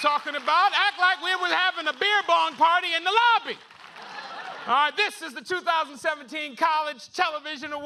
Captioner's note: cheers and applause